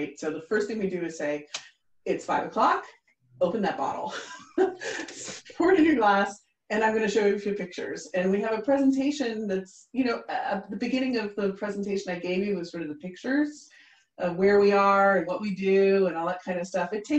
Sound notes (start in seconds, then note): 4.2 chuckling